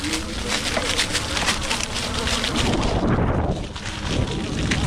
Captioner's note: bike engine roaring